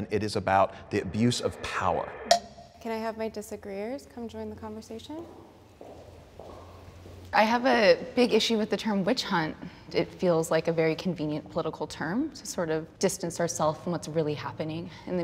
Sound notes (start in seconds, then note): 2.3 bell dings; 5.0 footsteps